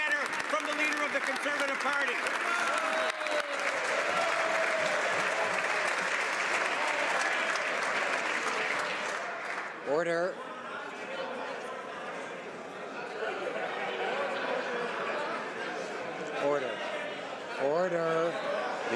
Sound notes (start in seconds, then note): 3.2 some Applause; 5.8 some Applause